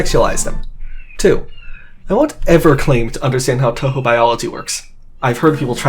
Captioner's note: crow squaking throuhgout clip